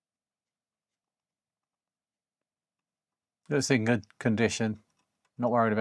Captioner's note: silence